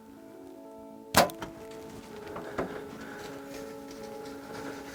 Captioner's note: arrow whooshes